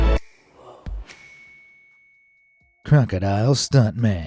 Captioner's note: light suspenseful music; bell dings